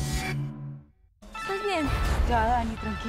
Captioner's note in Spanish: Suena el celular